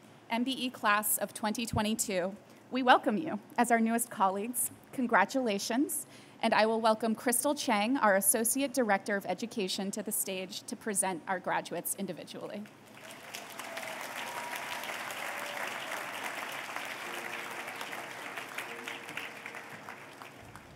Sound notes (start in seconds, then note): 12.8 applause